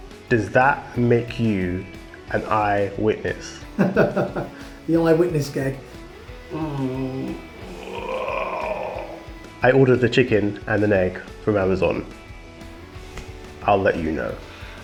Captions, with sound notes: does that make you an eye witness? (laughs) - The old eye witness gag. (groans) - I ordered the chicken and the egg from Amazon, I'll let you know.